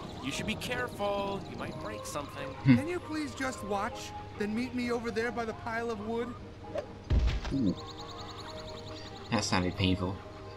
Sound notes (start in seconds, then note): 7.1 thud!!